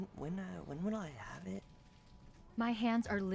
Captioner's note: whispering; whispering